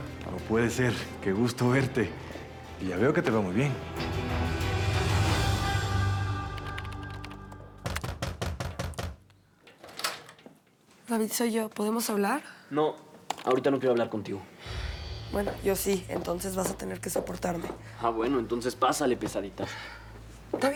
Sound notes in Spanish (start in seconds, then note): 7.9 Toques en la puerta